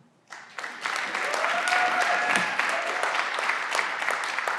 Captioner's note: everyone claps